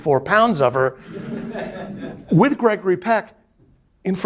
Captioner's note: students laughing